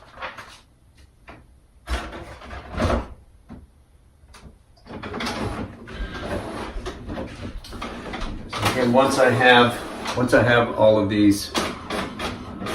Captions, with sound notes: (photocopier whirs) So again, once I have all of these photocopied